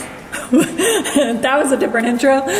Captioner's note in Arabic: يضحك كريستال